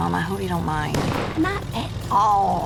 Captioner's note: car backfires